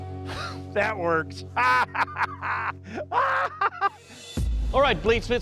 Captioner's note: maniacal laugh